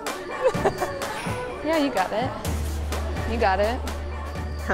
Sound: laughing

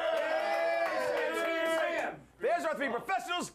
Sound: audience cheering

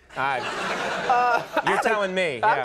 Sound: audience laughs

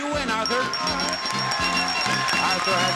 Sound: audience cheering

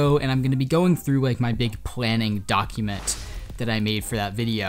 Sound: air whooshes

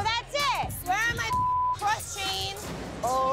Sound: beep

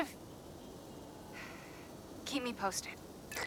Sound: sigh

